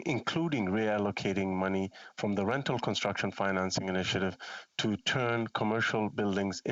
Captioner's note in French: voix de l'interprète